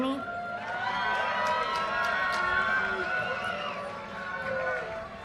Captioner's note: audience cheers and applause